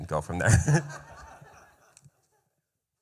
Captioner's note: laughter